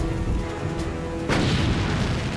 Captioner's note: explosion